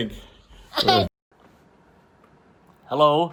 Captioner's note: chuckles